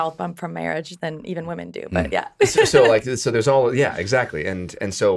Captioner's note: laughs